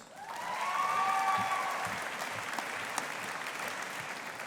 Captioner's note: audience applauding